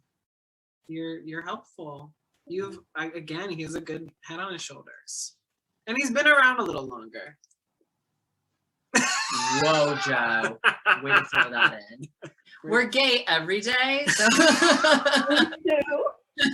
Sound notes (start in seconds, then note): 8.9 Joe laughing; 14.1 laughing